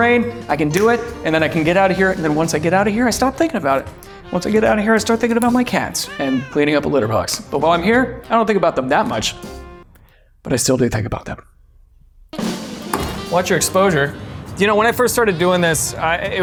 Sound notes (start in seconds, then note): 5.8 cat meows; 12.3 upbeat brass jazz music